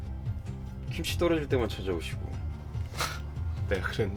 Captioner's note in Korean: 콧방귀